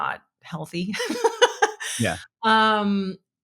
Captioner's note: laughing